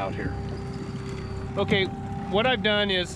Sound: winch motor running

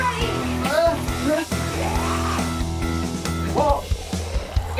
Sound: zombie growls

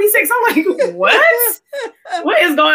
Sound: laughs

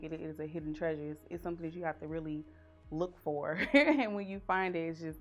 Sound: laughs

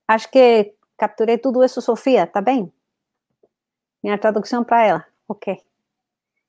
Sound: speaks portuguese

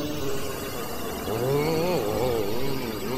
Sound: grumbles; electric whirring, grumbles

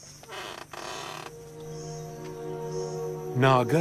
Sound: door creaking

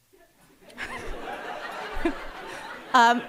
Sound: audience laughing

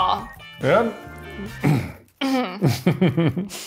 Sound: laughing

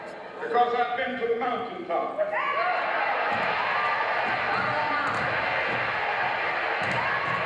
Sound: crowd cheers

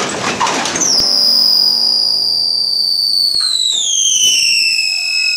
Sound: treadmill belt screeching

